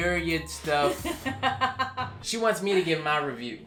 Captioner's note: laughs